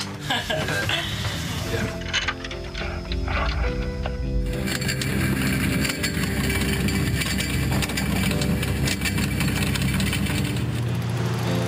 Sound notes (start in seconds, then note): 0.0 laughing; 4.4 anchor chain rattling